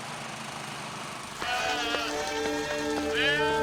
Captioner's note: sheep bleating